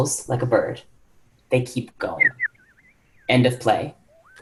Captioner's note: whistling